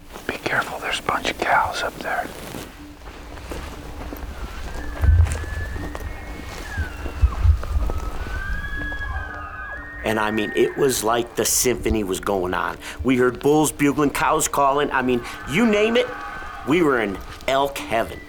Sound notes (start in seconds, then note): 3.8 bulls bugling